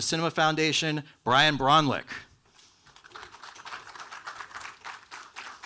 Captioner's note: audience applauding